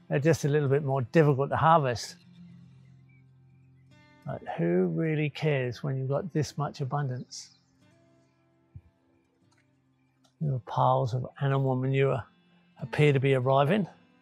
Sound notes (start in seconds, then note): 7.4 bird chirping; 7.4 gentle classical music; 8.8 cricket chirping